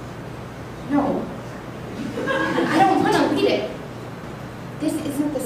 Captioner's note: audience chuckling